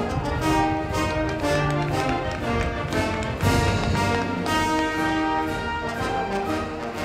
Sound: band music; crowd clapping

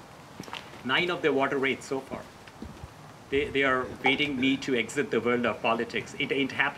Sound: laugh

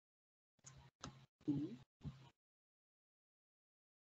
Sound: pause

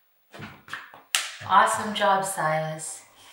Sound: hands clapping

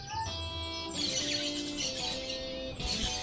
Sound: birds chirping

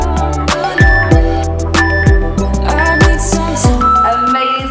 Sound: workout timer beeping

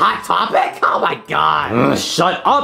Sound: Mario grunting

